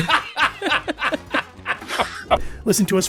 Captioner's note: party laughts